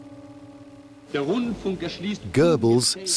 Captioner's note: speaking German